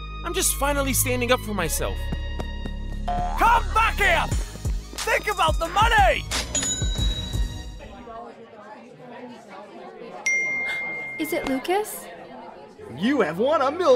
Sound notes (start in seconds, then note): 10.9 gasp